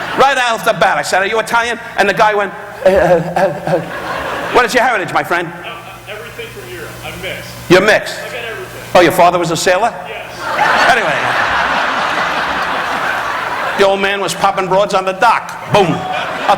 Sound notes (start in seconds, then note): 3.3 Don stuttering; 10.3 audience laughing